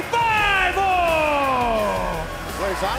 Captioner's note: crowd cheering